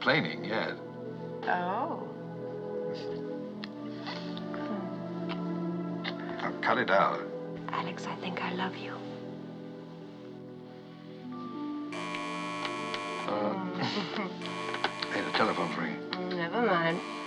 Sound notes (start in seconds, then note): 11.9 buzzing; 13.7 moaning, Giggling